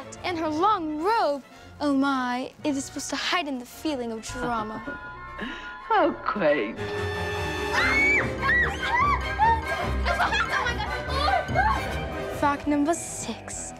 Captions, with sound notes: and her long robe! Oh my! is supposed to heighten the feeling of drama (wicked chuckle) How quaint! (screams) it's a bat! Fact number six!